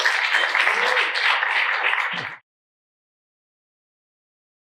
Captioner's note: applause